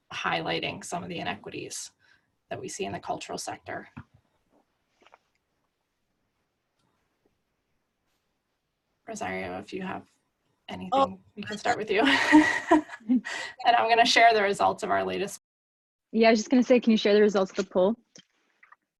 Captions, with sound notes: highlighting some the inequities that we see in the cultural sector. Rosario if you have anything we can start with you. (laughing) And I'm going to share the results of our latest Yeah I was just going to say, can you share the results of the poll?